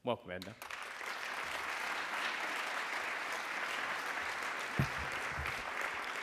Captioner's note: applause